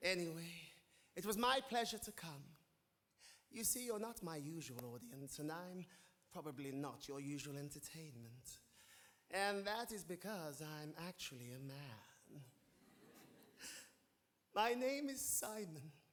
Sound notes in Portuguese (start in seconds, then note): 12.8 audience laughing